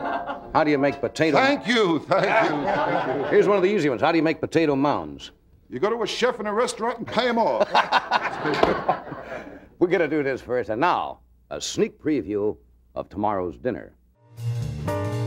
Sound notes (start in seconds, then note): 0.1 audience laughing; 7.3 Johnny laughing; 9.5 audience laughing